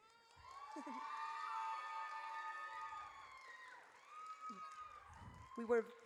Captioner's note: audience cheers